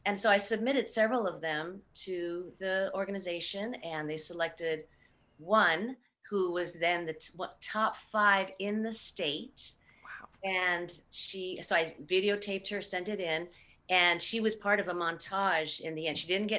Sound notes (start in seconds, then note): none